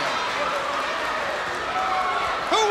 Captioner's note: crowd cheering